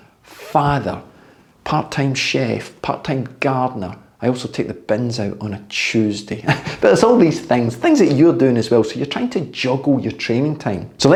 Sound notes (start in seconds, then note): 6.4 chuckles